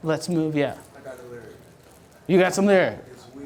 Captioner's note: voiceover